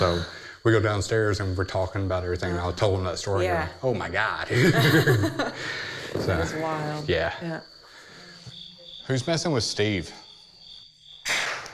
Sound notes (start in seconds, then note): 4.5 laughs; 8.5 crickets chirping